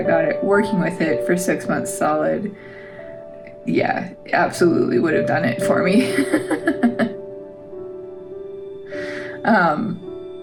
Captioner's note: laugh